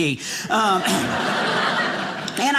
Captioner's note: audience laughing